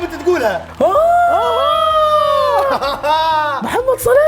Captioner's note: wooing and laughing